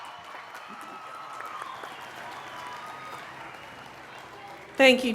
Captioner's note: cheering